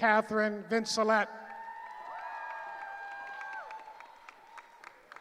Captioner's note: cheering